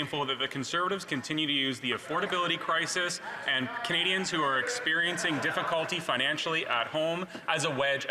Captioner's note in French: voix de l'interprète